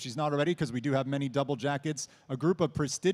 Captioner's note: none